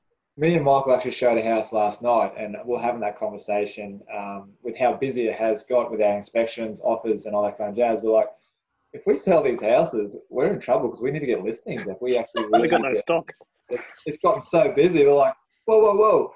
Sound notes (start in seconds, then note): 12.9 laughing